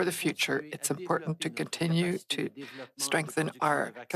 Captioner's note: speaking French